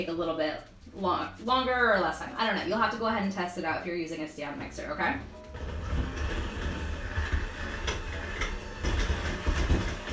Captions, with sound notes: a little bit longer, or less time, I don't know, you'll have to go ahead and test it out if you're using a stand mixer, okay. (mixer whirs)